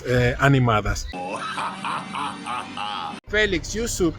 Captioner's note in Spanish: Risa malvada de Rasputin